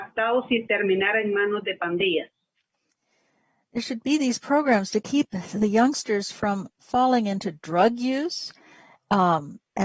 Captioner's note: speaking spanish